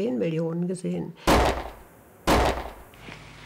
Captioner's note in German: Zwei Gewehrschüsse